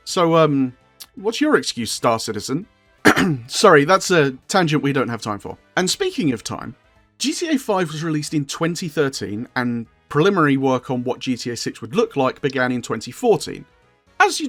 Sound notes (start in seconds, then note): 3.0 ahem